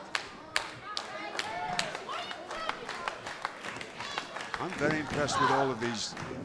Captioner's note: crowd chatter